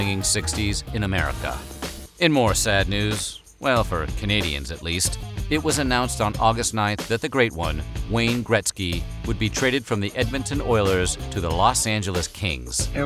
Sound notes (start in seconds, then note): none